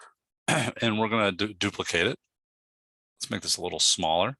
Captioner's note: clears throat